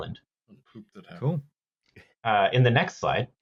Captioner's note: quietly muttering